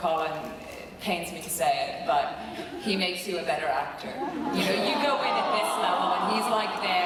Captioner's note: crowd awws